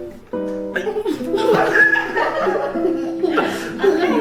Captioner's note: laughing